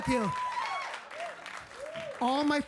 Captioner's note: audience cheering